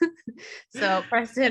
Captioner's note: laughing